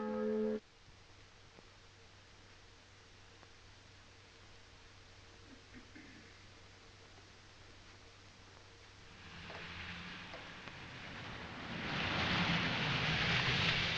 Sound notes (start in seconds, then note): 9.1 cars approaching